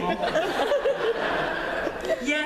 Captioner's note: laughter